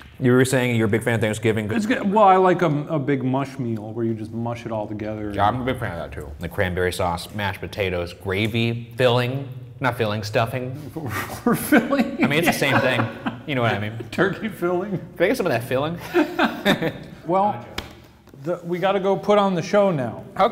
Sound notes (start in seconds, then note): 11.0 laughing